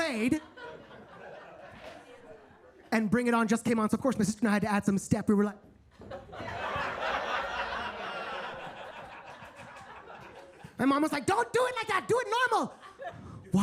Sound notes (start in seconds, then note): 0.1 attendees laughing; 5.9 attendees laughing; 6.4 mic thuds